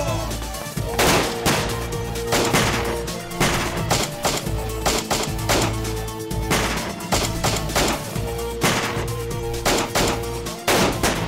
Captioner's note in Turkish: si̇lah sesleri̇